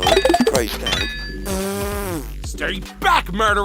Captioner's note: blowing raspberry